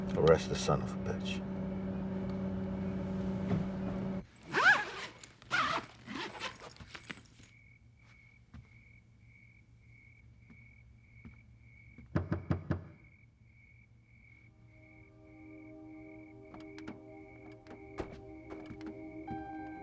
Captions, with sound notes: - Arrest the son of a bitch. (bag zipping) (knocking on door) (dramatic orchestral music)